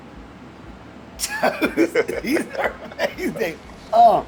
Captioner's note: both laugh